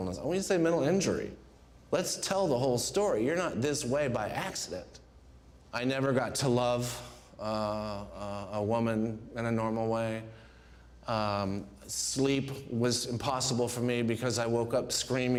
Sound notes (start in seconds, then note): none